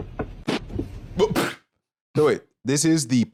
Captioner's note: laughs abruptly